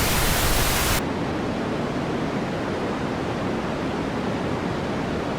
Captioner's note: wind blowing